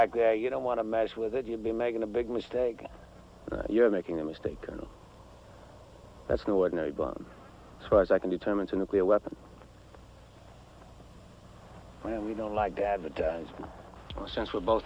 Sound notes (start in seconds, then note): none